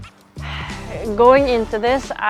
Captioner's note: sigh